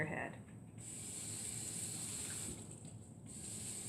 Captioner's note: running water